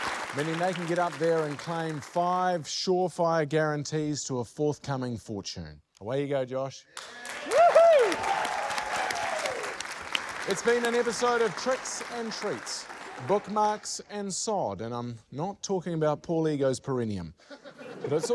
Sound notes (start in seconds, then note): 6.9 applause